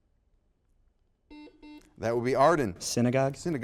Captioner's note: buzzer beeps